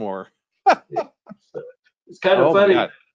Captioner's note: laughs